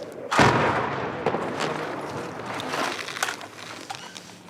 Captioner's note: metal clanging